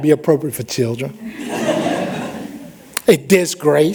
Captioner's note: laughter